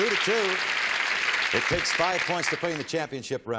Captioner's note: applause